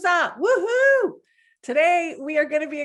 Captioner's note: exults